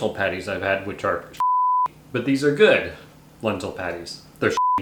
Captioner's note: beep; beep